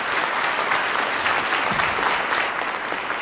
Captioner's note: applause